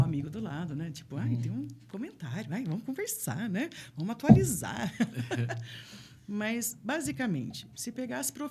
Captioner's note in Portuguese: risadas